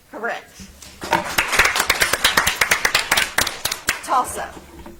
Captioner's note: audience applauds